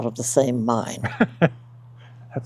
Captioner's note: host laughs